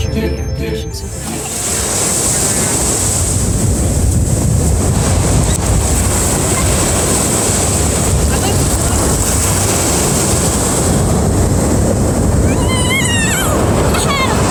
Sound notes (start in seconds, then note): 1.2 distant ocean sounds and the sound of play